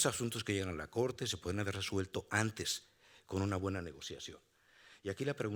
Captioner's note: speaking Spanish continues